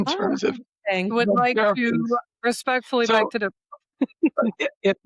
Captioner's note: laughs